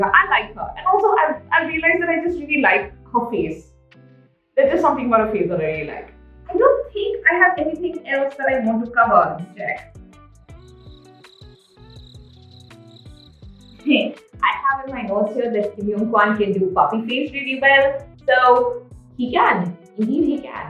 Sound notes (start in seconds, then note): 13.2 crickets